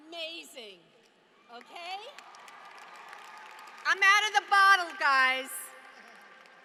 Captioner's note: applause